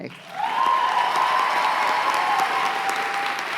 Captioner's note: cheers and applause